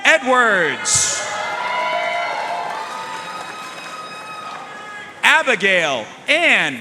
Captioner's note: audience cheering and applauding